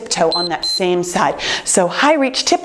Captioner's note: time beeps